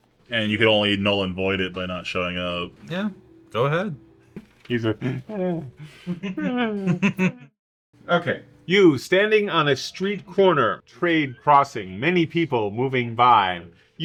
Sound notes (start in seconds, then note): 4.9 chuckles